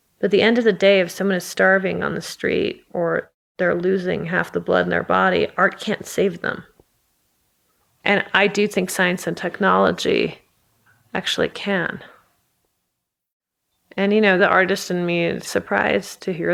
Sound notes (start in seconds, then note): none